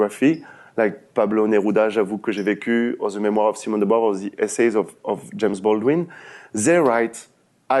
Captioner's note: french